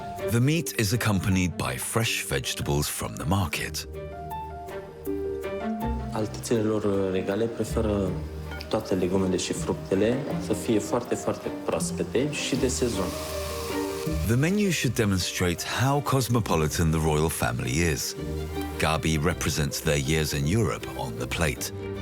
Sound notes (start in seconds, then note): 6.1 speaking foreign language